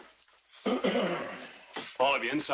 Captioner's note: clears throat